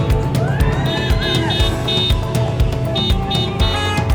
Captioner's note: crowd cheering